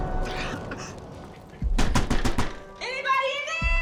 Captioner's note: pounding on door